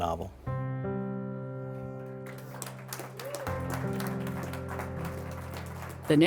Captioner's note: gentle music; attendees applaud